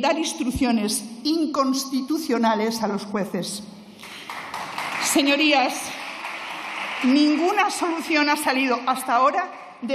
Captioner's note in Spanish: Aplausos